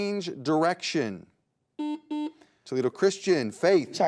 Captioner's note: buzzer beeps